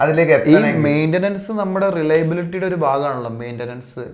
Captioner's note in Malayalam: തൊണ്ട ശരിയാക്കുന്നു